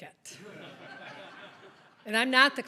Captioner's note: audience laughs